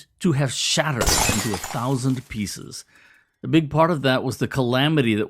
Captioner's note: breaking glass is heard